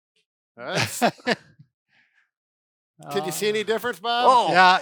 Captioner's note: laughter